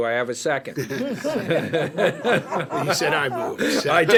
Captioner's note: board members laughing